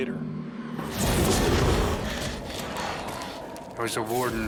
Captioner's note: snarling